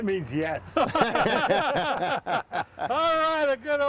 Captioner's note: laughing